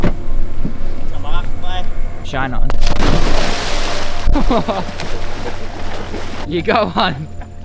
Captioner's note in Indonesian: splash; laugh